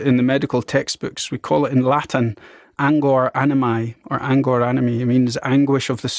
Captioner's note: speaking in foreign language